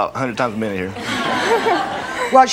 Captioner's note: audience awes